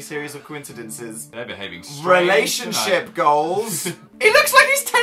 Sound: laughs

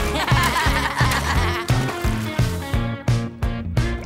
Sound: both laughing

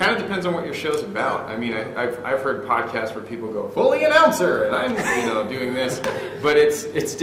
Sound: in "announcer voice"

